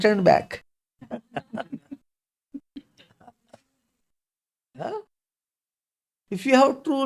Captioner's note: laughs